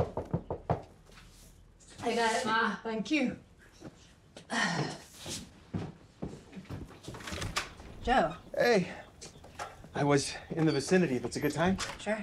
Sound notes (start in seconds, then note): 0.0 knocking; 4.7 Clive sighs